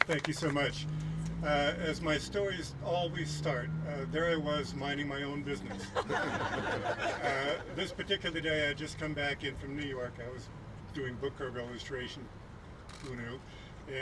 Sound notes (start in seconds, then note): 5.7 laughing